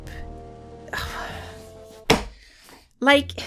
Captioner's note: sighs and slaps table